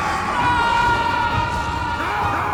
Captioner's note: James screams; Butters screams; Hutton screams